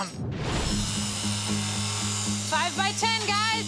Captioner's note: saw buzzing